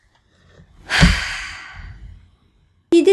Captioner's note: sigh